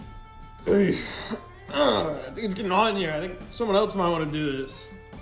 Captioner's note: cowardly mumbling